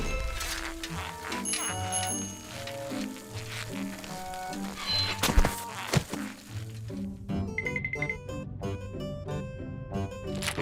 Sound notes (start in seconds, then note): 1.4 bicycle bell rings